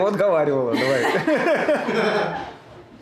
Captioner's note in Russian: смеются